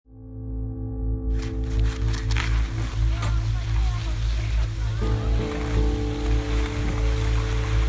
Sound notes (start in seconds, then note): 1.3 snow skis whooshing; 5.1 piano music